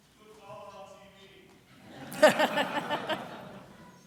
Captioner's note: voiceover; audience laughter